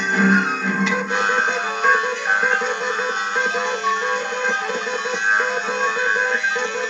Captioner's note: beeping